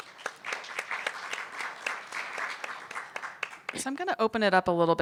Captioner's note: audience applauding